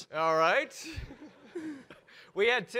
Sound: audience laugh

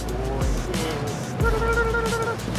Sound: humming

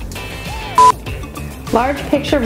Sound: beeping

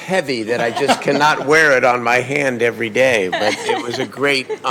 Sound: laughter; laughter

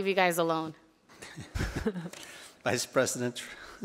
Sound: board members laughing

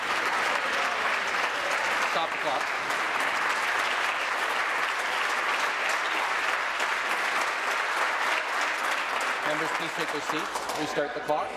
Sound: applause

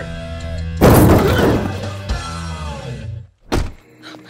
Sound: crash

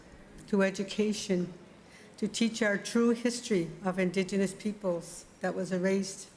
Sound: speaking Indigenous LANGUAGE

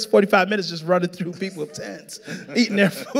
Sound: laughing

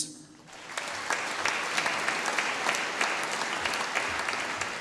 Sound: audience applauding

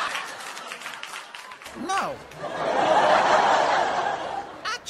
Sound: audience laughs; laughter continues

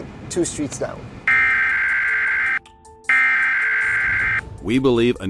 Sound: emergency alert tone

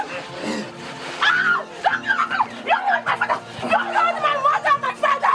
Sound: screaming

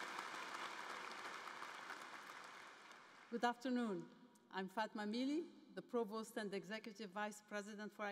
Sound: cheers and applause

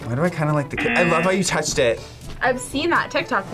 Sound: buzzer rings

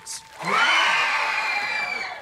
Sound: cheering

